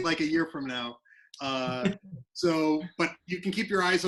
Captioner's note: laughs